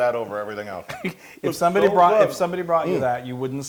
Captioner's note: laugh